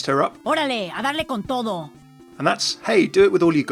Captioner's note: Sombra speaking in foreign language